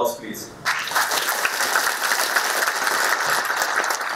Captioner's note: applause